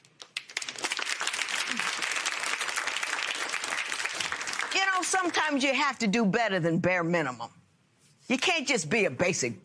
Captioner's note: applause